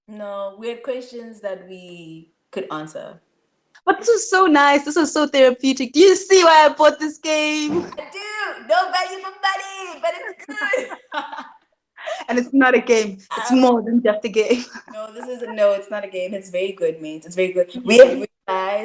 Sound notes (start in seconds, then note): 9.4 foreign language